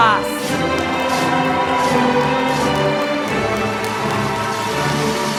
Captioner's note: applause